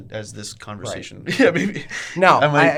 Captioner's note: laughs